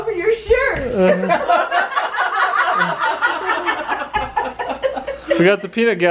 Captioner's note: laughter